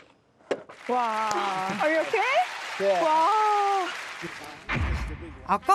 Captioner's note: clapping